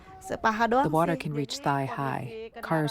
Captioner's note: through translator